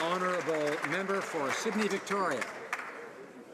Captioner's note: some Applause